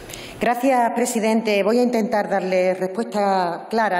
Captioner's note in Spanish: none